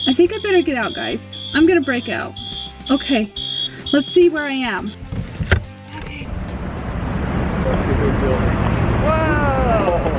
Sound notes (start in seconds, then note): 6.8 traffic driving